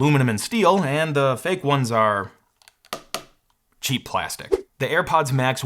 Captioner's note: bangs headphones